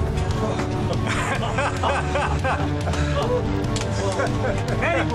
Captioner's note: all laughing